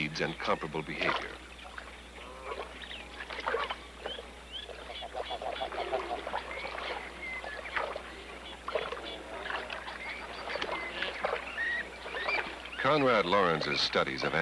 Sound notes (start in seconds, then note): 2.0 water Sloshing, Geese Honking, Chirping